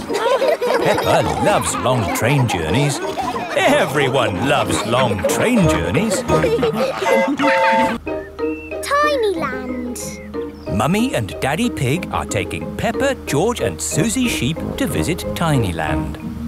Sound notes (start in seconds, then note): 0.2 laughing; 7.0 train whistle toots